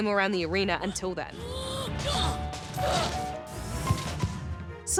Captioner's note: grunts